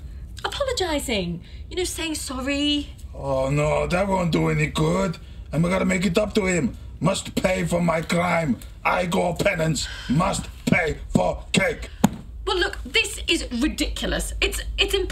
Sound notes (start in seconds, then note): 10.6 head thudding; 11.3 Septima sighing